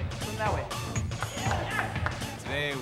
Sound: cheering

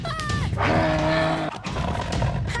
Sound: roaring

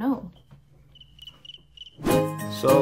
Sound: cricket chirps

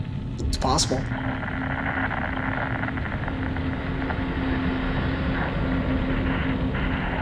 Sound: light dramatic music; static buzzing

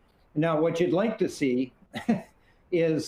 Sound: chuckles

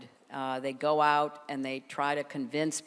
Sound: none

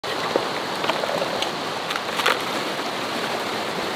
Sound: water rushing

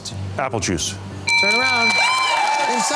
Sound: bell ringing

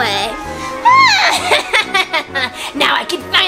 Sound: laughs

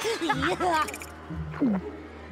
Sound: laughing; gulping

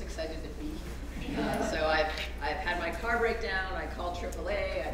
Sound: laugh

